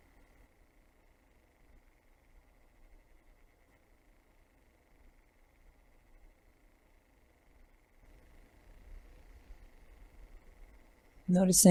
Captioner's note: silence